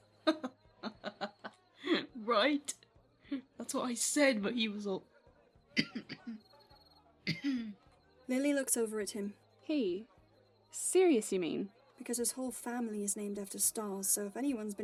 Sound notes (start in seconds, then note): 0.8 James laughs; 5.7 James coughs